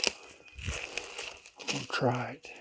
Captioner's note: leaves crunching